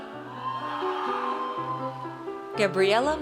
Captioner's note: audience cheers